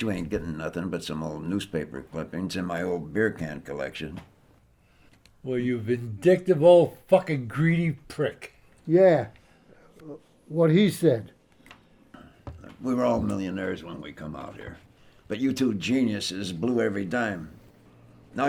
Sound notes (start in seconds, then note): none